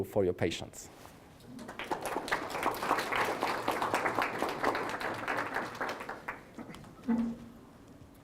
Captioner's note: applause